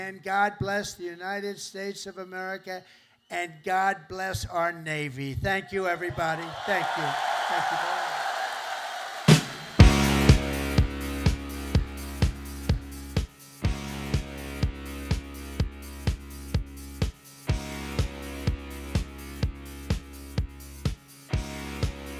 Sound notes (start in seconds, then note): 7.9 cheers and applause